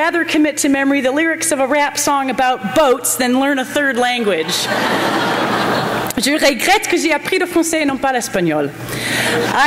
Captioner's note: laughter; foreign language spoken